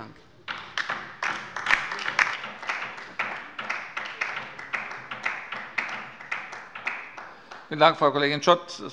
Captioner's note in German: Beifall bei der LINKEN